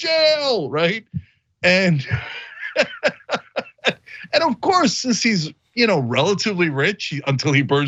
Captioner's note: laugh